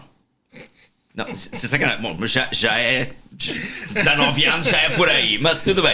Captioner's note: laughs